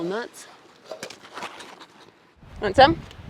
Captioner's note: sniffing